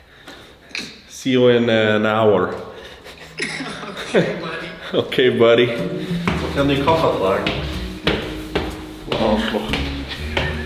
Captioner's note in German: gelächter